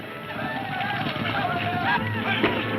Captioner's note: men shouting